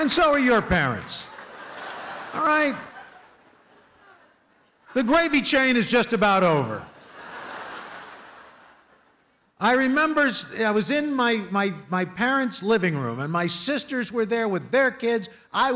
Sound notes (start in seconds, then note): 6.9 laughter